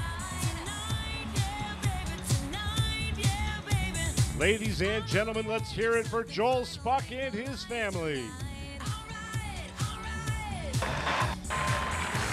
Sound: cheers and applause

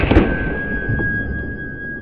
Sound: rubber bands ball explodes in slow motion

